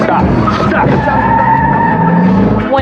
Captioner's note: tiresquealing